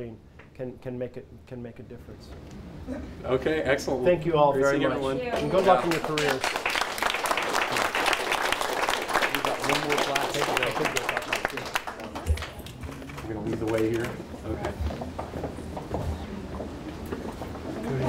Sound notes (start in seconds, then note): 5.3 applause